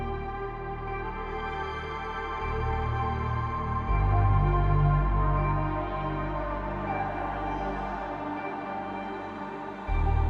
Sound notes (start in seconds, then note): none